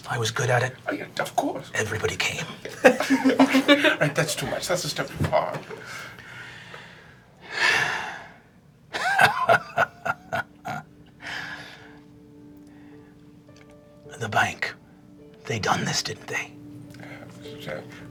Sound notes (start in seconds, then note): 7.4 sighing; 8.9 laughing